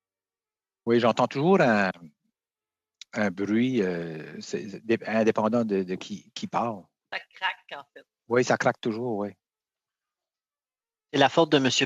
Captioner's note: speaking French